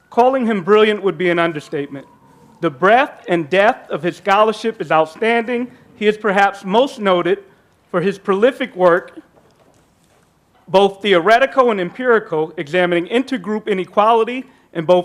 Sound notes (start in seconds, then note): none